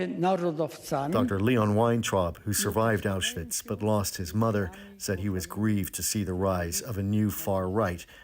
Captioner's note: speaking alternate language